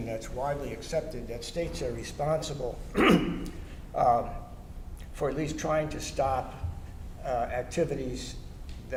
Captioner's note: cough